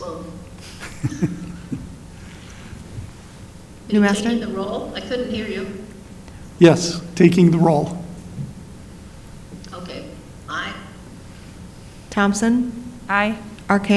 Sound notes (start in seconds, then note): 4.8 speaks faintly